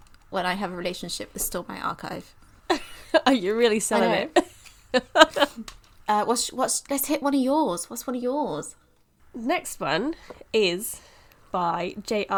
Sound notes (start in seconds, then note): 3.9 laughing; 3.9 laughs